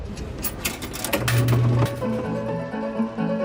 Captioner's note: machine clacking